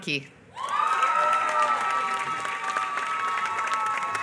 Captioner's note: applause